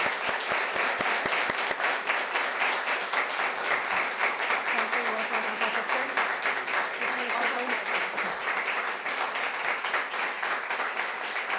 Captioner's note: applause